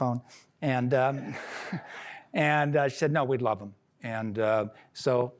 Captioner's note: laughter